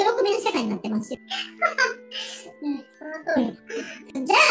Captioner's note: laughs